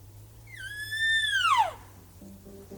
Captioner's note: cow calling